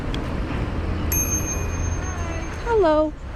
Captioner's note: bell